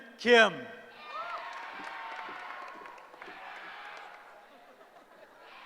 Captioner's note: cheering